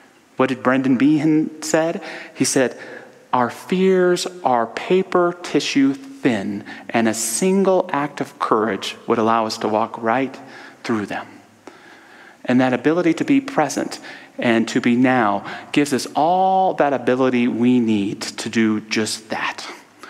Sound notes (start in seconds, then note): none